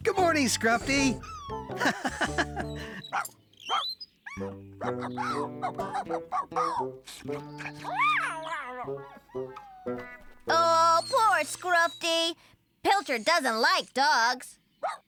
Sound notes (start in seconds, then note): 0.7 laughing; 7.0 slurp!